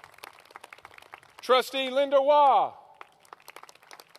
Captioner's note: applause